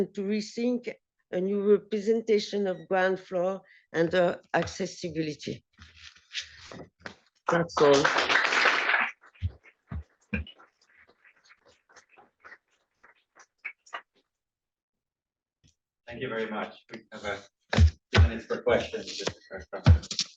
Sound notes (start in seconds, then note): 7.6 applause